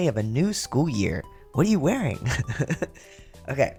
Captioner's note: laugh